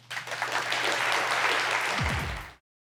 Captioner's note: applause